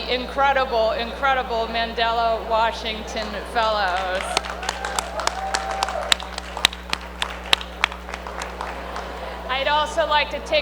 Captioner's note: applause